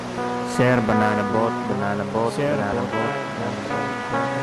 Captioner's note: echo